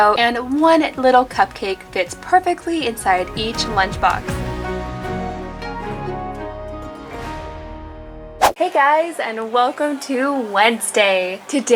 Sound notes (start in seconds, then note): 5.0 upbeat music; 8.4 whooshing